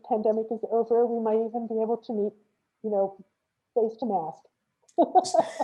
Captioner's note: laughs